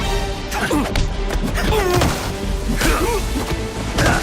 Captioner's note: grunting